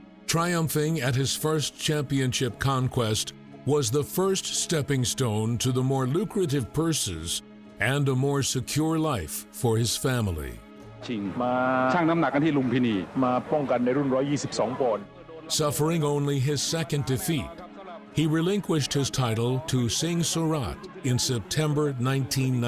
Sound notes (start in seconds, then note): 11.2 referee speaking in foreign language